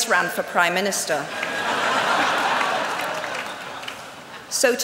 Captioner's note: laughter